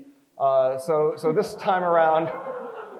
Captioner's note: crowd chuckles